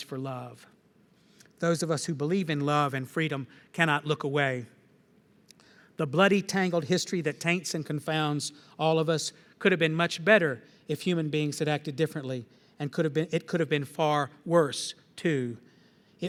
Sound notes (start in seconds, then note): none